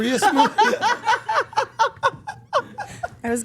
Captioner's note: everyone laughing